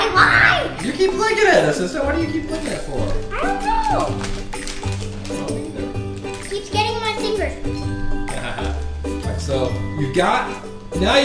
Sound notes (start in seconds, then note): 1.3 voiceover; 6.2 voiceover; 8.9 voiceover